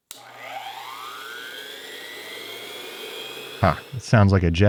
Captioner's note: tool buzzing